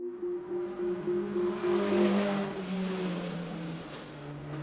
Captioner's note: car engines roaring